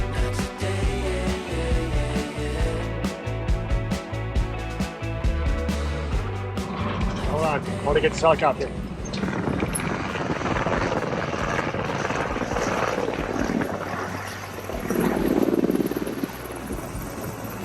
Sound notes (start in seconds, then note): 10.9 helicopter whirring